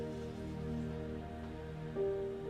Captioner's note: water running